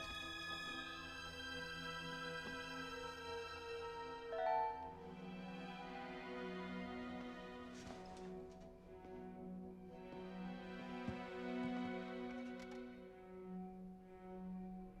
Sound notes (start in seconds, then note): 4.3 computer notification chimes